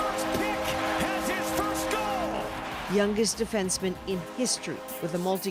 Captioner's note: cheers and Applause